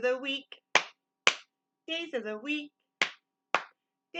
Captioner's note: clap, clap; clap, clap